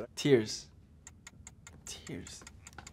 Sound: timer ticking

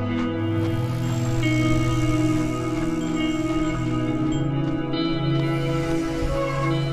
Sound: bike whirring; birds chirping; bell dinging

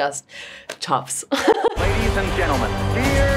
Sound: Olivia giggling

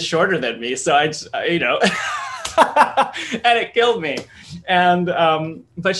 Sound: laughs

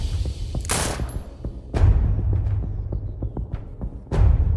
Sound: gunshot fired

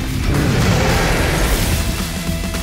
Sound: dinosaur roars

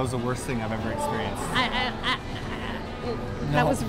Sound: stutters

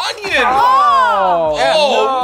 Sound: disgusted exclaims

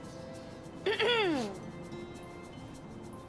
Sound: clears throat

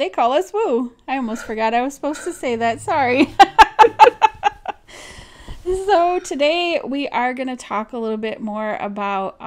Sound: laughs

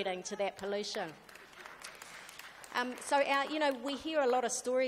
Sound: audience applauds

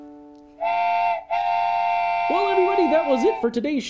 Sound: train whistle blowing

